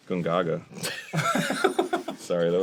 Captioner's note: the boys laugh